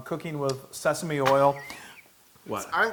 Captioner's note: laugh